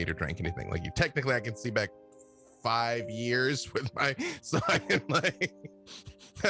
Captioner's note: laughs